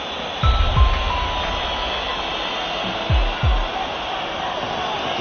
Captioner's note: crowd whistling